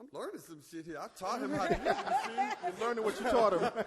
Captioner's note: all laugh